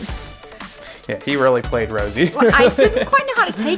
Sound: laughs

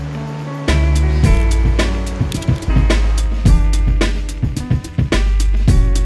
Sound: camera shutter clicking

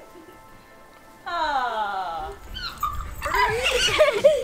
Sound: giggling; squealing

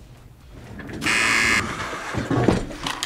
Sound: buzzer rings

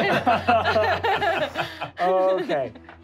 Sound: laughing

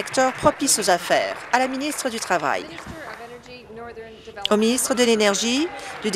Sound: applause

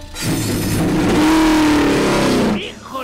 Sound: engine roaring

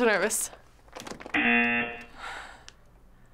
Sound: buzzer

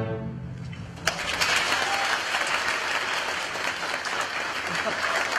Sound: applause

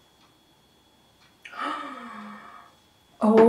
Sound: gasp

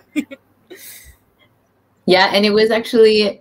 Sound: laughs

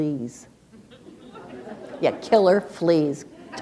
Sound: laughter

